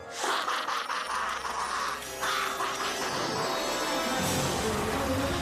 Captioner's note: laughing maniacally